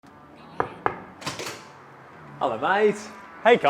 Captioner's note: door knocks